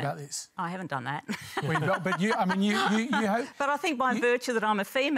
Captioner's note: chuckles